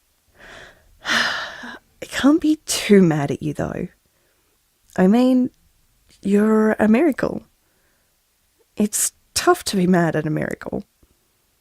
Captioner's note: sigh